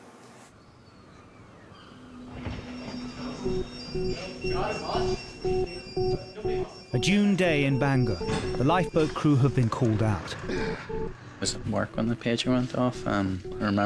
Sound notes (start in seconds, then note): 1.0 gulls crying; 3.0 alarms bleeping; 3.0 suspenseful music